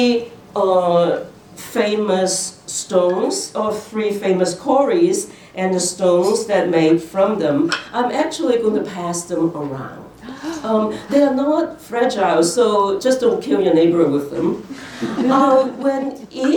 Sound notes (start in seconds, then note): 10.2 audience gasps; 14.9 laughter